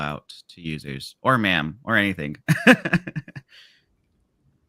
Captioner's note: laughs